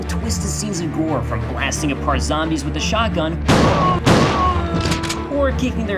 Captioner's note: shotgun Blast